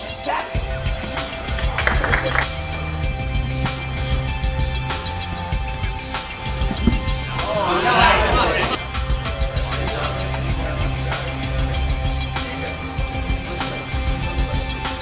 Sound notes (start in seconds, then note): 1.4 clapping; 9.0 chattering